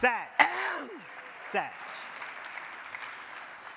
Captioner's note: crowd clapping